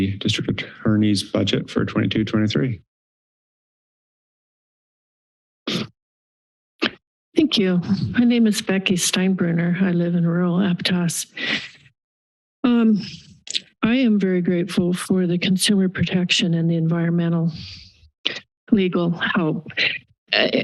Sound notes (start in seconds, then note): 3.3 silence; 11.3 pause